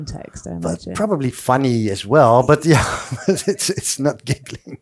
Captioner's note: laughs